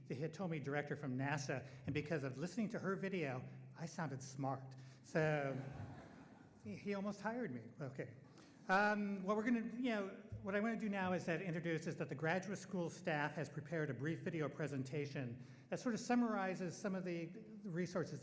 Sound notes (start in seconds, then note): 5.3 audience laughing